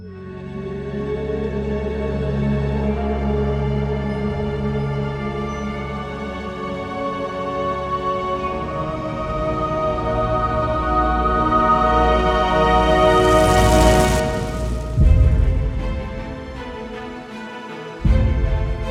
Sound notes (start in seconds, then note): 0.1 eerie orchestral music; 12.3 flames crackle; 15.2 dramatic orchestral music